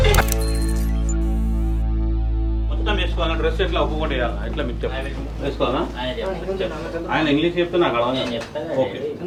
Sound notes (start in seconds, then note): 2.8 chatter in Telugu